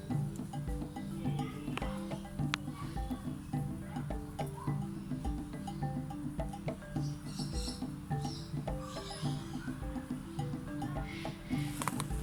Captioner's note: birds chirping, people chattering